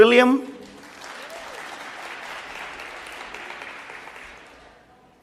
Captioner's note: applause